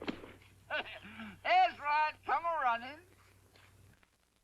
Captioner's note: chuckles